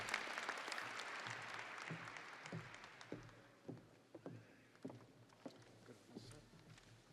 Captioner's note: audience applauding